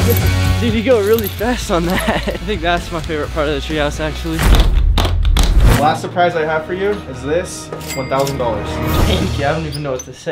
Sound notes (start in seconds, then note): 4.2 briefcase locks snapping